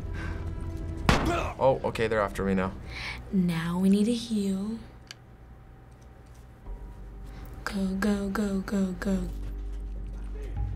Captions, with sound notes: - (thump) - (Joel groans) Oh, okay. They're after me now. Now we need to heal. Go, go, go, go, go.